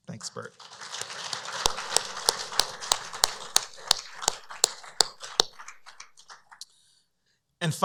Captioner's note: applause